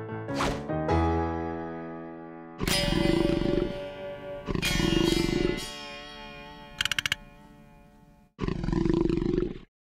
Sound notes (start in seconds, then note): 2.5 growling; 8.4 growling continues